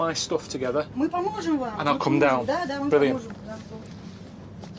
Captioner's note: speaks in Russian